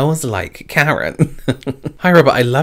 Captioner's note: giggles